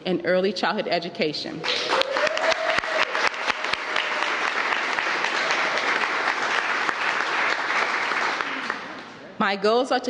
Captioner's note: applause